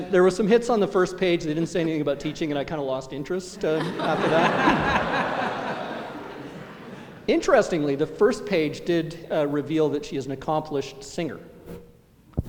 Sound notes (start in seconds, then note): 3.5 laughter